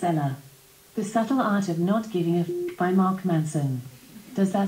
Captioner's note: beep